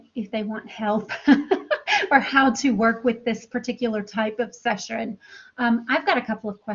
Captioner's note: laughter